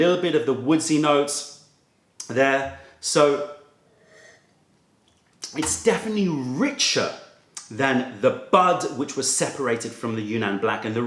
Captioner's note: sips tea